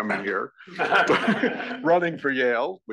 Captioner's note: laugh